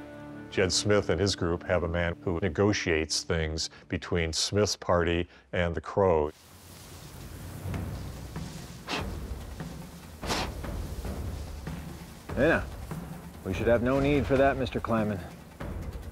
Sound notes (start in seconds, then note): 8.6 blowing